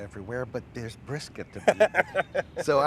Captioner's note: Aaron laughs